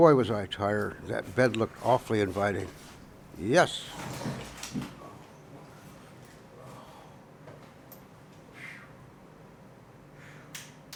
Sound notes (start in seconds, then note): 7.0 sighing